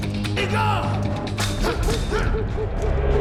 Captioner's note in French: Crie en russe